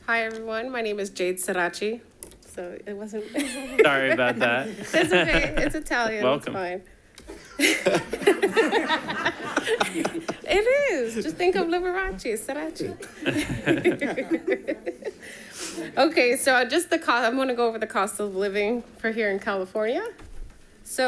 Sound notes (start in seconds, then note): 3.3 laughs; 7.2 all laughing